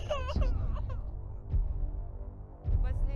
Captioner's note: crying